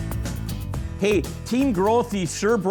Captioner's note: voiceover